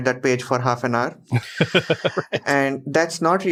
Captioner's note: laughs